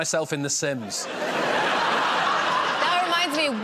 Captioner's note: laughter